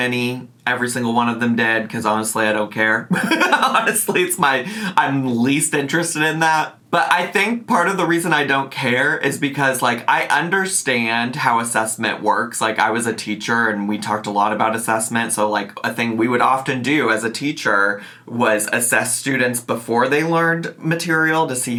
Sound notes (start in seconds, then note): 3.1 laughs